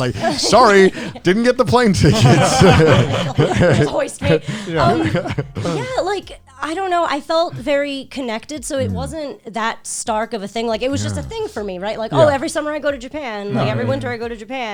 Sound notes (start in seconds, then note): 2.1 all laughing